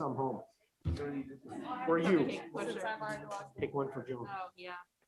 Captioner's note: members chatting